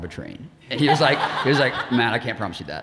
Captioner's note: audience laughing